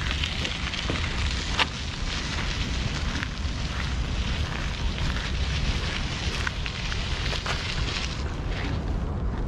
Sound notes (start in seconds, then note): 3.8 air whooshing; 3.8 gears whirring